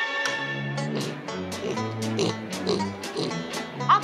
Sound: snort snort

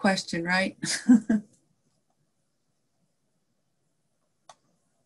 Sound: laughing

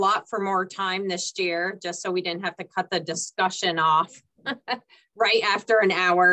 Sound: chuckles

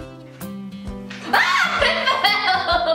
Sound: yells

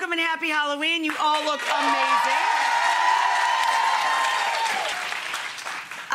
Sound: audience applauding

